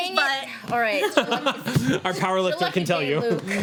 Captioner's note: laughing